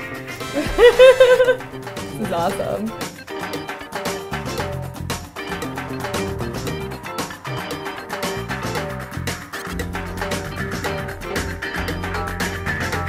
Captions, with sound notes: (laughs) This is awesome. (upbeat music)